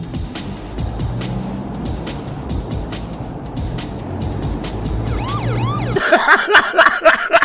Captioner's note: cop siren sound effect